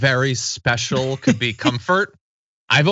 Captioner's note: laugh